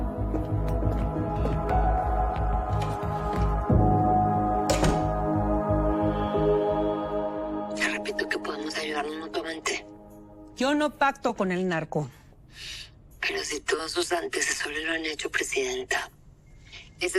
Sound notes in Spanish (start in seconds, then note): 4.6 Ruido al cerrar la puerta